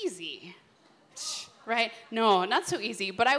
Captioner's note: scoffs